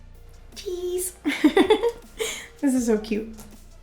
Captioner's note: laughs